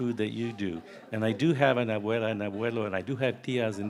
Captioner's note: speaking in foreign language